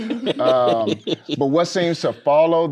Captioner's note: laughing